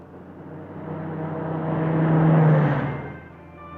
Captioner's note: car driving, radio on